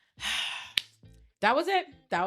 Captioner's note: sighs